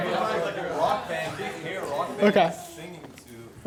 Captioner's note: voiceover